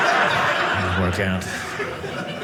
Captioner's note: audience laughing